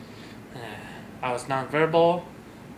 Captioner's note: loud sigh